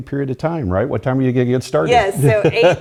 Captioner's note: laugh